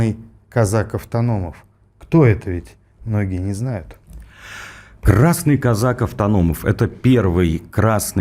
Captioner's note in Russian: тяжело вздыхает